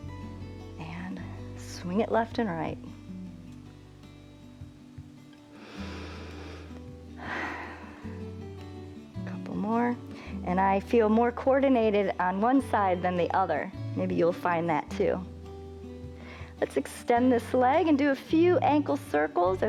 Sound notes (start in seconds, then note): 5.5 inhales and exhales